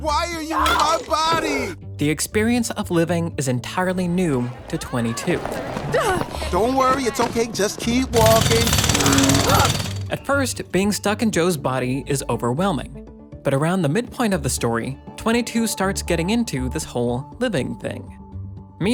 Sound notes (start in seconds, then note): 5.9 gasps; 8.1 jake hammer rattling; 9.0 shouts